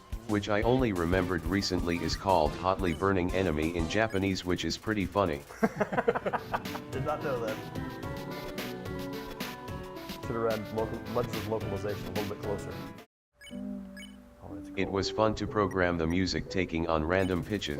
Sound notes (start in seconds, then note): 5.5 laughter